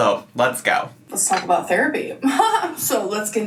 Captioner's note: laughs